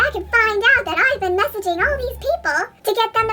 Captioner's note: high pitched